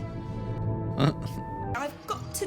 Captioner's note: tiny laugh